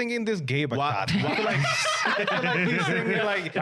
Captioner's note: laughing